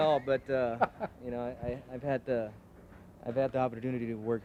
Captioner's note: laughing